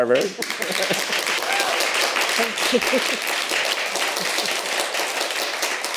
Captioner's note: audience applauding